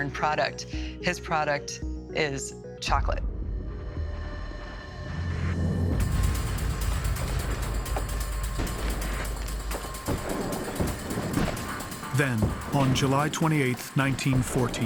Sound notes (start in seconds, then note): 5.4 rapid tense music; 6.8 weapons firing